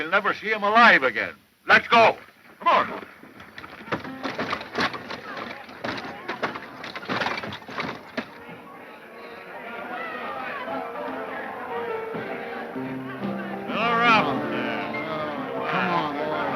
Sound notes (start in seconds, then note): 9.9 bar crowd happily murmurs